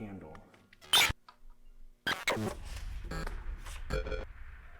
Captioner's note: static crackling